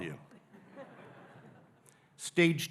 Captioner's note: audience laughing